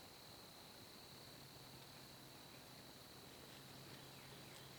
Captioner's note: turkey steps